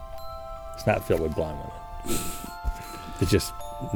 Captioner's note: laughing